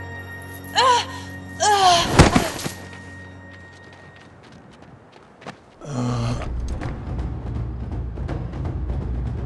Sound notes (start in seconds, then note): 0.8 groaning; 5.8 groaning